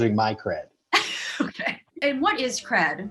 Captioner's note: laughs